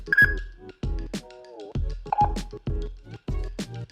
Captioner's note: beeping